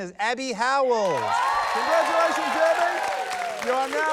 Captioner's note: cheering, applause